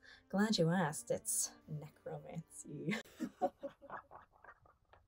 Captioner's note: laughs evilly